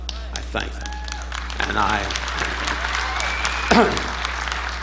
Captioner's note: audience applauding